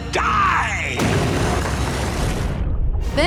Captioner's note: stone crumbles